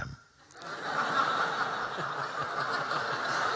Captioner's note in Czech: Smích